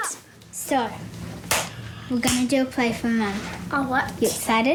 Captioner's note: claps